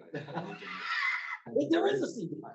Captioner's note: laughing